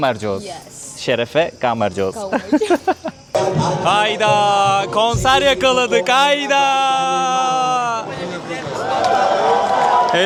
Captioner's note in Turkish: kahkaha